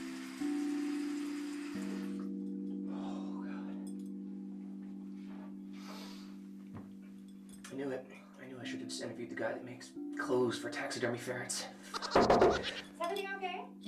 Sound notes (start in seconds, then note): 2.9 sighing; 11.9 high-pitched chittering; 12.0 knocking